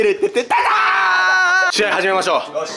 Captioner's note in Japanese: 叫び